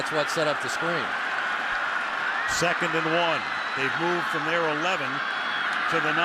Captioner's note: cheering